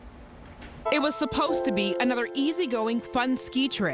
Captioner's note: sad piano music; voiceover